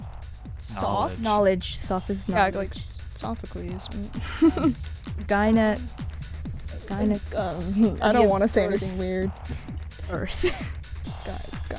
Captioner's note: whispering